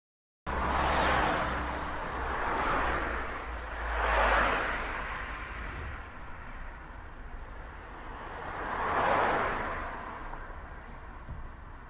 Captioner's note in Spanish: Sonido de autos circulando en carretera a alta velocidad